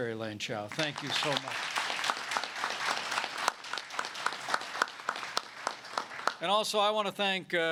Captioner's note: applause